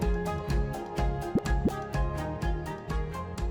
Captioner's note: graphic pops; upbeat music continues